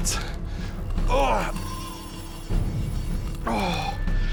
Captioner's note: grunts